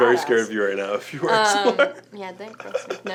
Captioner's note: laughs